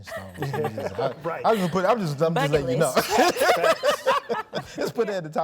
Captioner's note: laughing